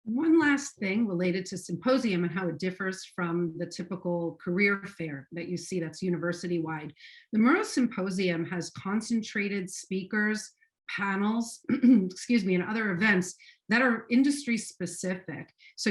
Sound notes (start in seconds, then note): 11.6 clearing throat